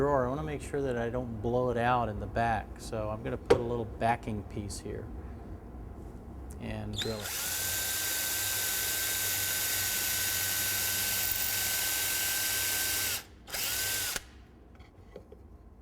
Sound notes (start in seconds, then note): 7.0 drill whirs and screeches